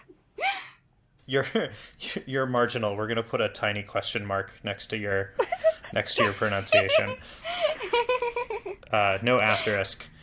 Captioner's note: laugh